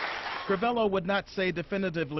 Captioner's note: applause